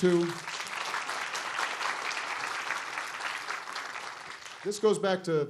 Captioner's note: applause